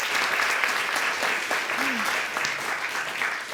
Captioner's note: audience applauding